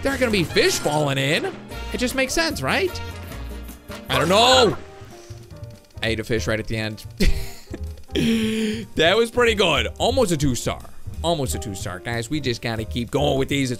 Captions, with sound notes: There aren't gonna be fish falling in. It just makes sense, right? I don't know, oh! I ate a fish right at the end. (laughs) That was pretty good, almost a two star. Almost a two star. Guys, we just gotta keep going with these,